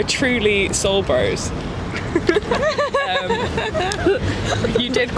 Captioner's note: laugh